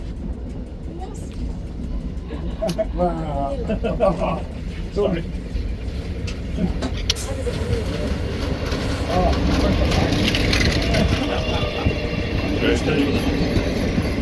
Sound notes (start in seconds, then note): 8.2 engine rumbling